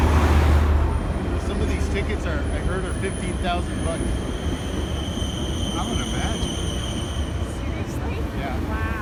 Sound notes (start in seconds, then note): 1.7 people chatting on bridge